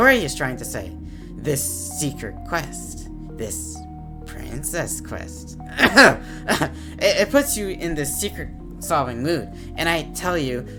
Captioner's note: ahem